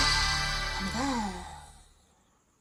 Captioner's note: sigh of Relief